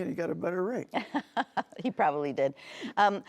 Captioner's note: laughing